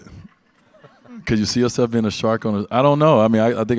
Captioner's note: audience laughs